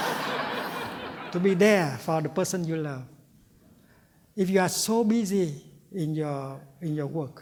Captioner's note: laughter